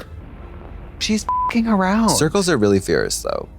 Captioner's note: beep